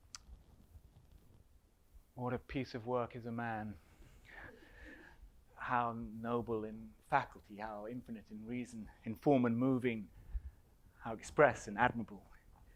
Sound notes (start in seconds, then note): none